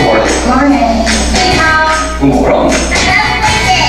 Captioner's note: non-english speech